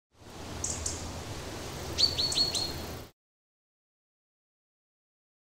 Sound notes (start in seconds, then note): 0.0 birds chirping